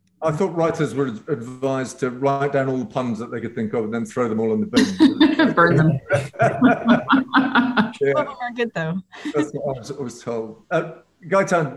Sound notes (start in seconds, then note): 6.5 moderator and jurors laughing